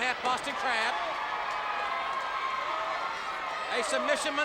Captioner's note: audience cheers